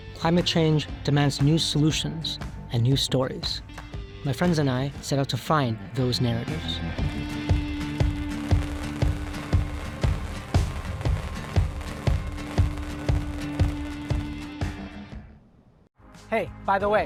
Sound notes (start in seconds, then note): 7.0 rhythmic music; 7.4 screen hissing